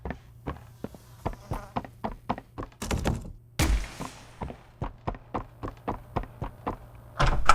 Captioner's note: footsteps; gunshot; footsteps